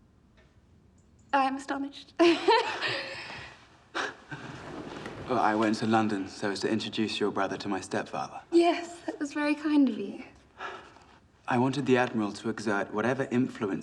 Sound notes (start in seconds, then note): 2.2 laughs